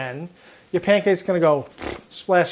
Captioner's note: vibrates lips